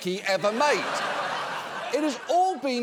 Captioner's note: audience laughing